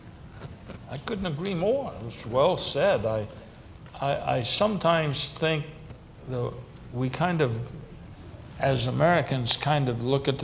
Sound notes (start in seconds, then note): none